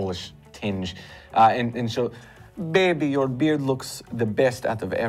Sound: polish accent

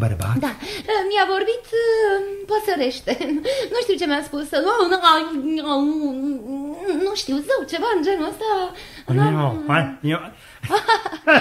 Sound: humming; they both laugh

